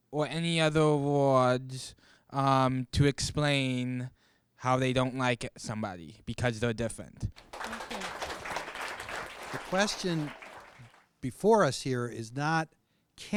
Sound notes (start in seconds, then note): 7.3 audience clapping